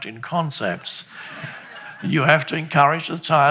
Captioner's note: crowd laughs